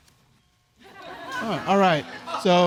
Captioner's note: audience chuckling